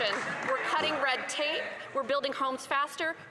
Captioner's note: cheers & Applause